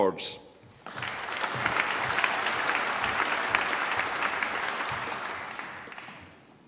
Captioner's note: applause